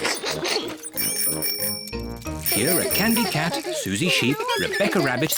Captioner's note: giggles; bicycle bells tinkle